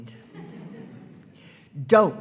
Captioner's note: attendees laughing